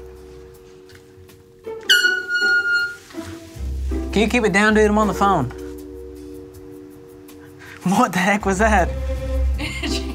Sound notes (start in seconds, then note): 1.8 chair squeaks; 9.6 laughs